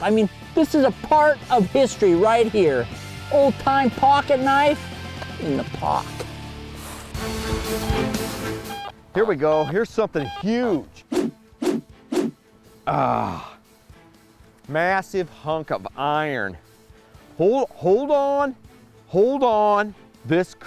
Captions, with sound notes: I mean this is a part of history right here. Old time pocket knife in the poc. (energetic music) - Here we go, here's something huge. (whooshing) Ahh, massive hunk of iron. Hold on, hold on, this could be as good